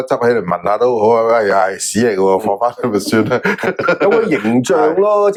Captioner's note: haha